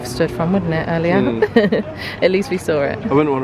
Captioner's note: chuckling